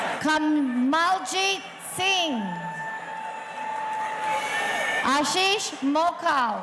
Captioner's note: audience cheering